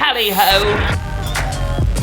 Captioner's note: static buzzes; upbeat music